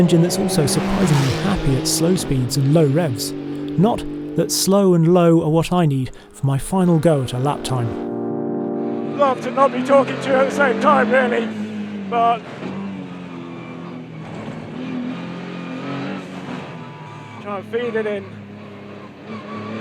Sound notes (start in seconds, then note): 8.1 gentle music; 13.4 car engine revving